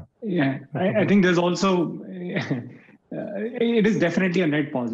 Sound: chuckles

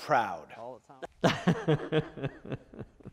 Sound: laughter

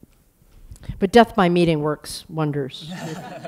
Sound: laughter

